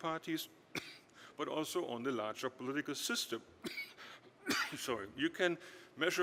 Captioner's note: coughs